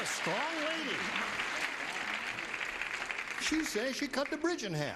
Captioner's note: audience applauding